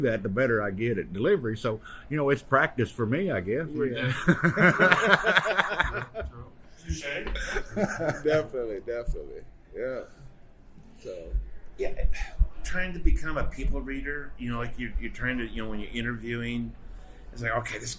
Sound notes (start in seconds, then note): 3.9 men laughing